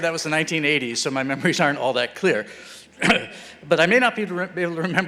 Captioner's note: clears throat